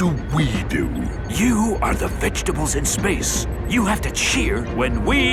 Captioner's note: whispering